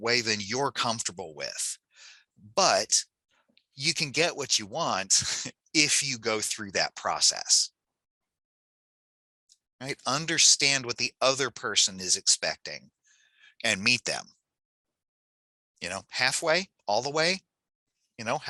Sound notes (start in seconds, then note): 5.2 laughs